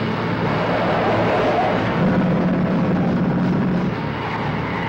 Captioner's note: truck screeching